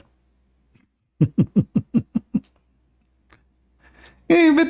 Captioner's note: Ketawa